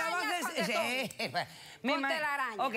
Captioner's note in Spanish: comentarios al unísono